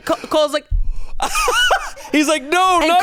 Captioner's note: laughs